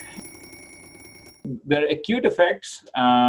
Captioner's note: alarm ringing